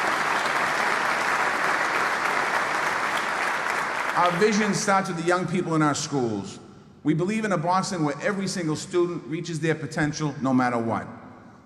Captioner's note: applause